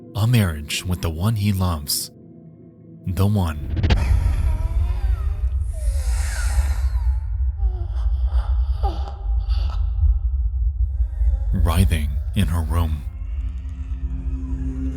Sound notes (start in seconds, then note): 4.0 Pretty Lady groaning